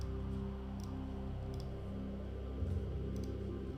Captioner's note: mouse clicking